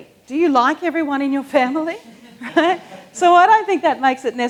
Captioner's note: laughs